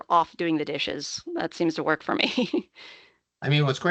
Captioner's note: chuckling